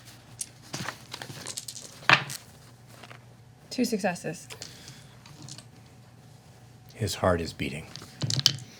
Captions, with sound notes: (dice rolling) Two successes. His heart is beating.